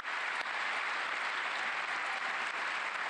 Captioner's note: cheers and applause